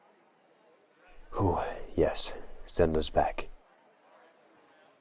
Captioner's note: exhale